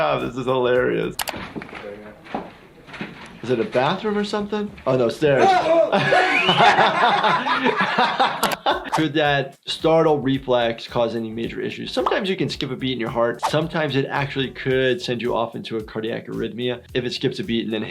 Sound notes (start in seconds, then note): 5.4 Wee Man laughing; 5.7 frightened scream